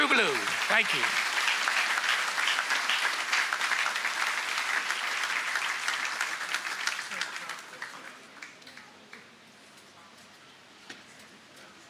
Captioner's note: applause